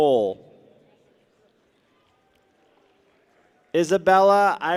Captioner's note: people clap